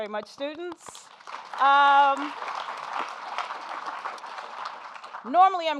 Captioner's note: audience applauding